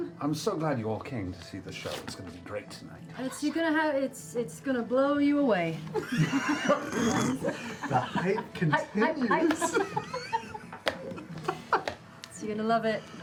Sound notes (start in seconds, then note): 3.8 deadpan; 5.9 laughter